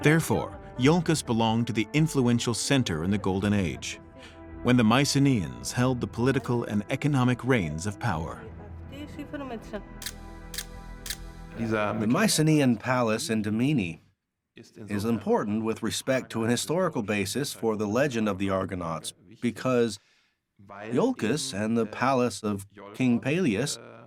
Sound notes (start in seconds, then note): 8.8 woman speaking Greek; 10.0 camera shutter clicking